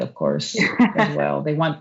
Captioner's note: laughs